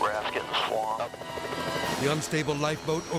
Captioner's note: helicopter rotor whirring; tense music